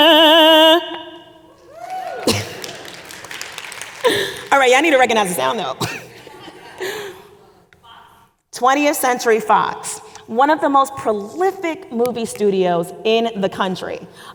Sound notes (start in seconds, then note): 1.6 audience applauding; 6.1 audience speaking indistinctly